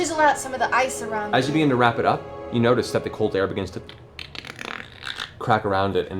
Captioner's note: cracking